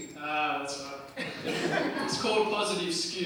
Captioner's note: crowd laughs